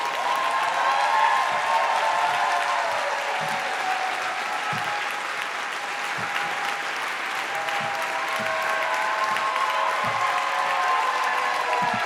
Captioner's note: cheers and applause